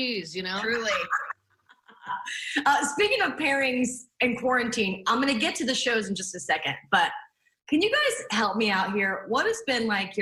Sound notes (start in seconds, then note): 0.6 laughter